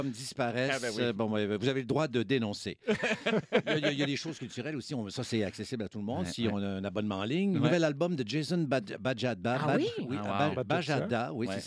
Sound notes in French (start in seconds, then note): 2.8 rires